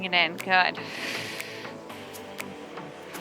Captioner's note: breathes